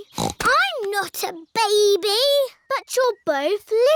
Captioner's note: snorts